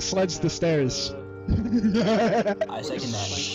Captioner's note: maniacal laughter